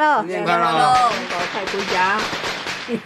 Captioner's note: granny speaking in Sichuanese - unintelligible